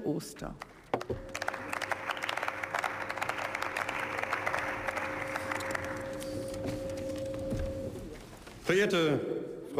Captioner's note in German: Beifall